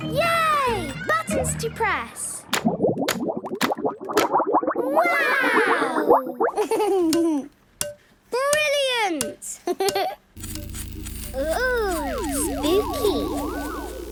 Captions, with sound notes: - Yay! Buttons to press! - (bubbling) - Wow! - Click, clack! - Brilliant! Hee, hee! - (pulsing) - Oooh! Spooky!